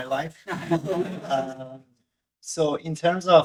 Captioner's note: audience laughing